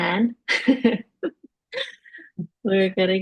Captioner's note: laughing